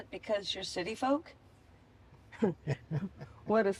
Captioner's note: laughter